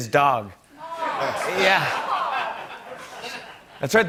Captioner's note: laughter